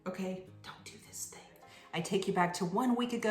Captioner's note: whispers